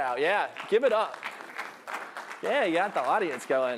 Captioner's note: applause